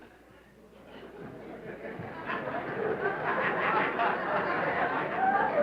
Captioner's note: laughter